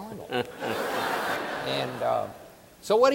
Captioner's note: audience laughing